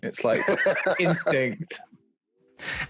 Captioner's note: laughing